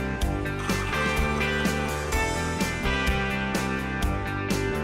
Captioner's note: beans rattle; lively rock music; espresso machine whirs